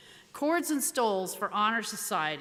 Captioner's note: none